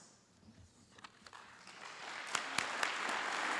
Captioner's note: applause